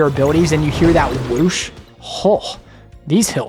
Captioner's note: whoosh